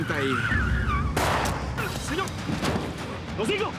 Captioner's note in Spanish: Chirrido de gomas; Disparos